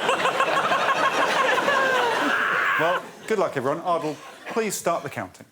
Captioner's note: laughter